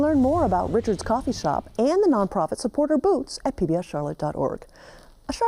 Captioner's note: none